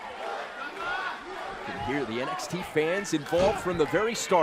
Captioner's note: crowd cheering